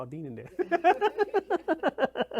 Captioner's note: laughs